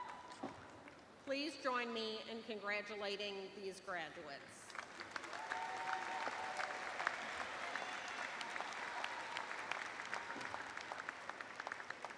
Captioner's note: cheers and applause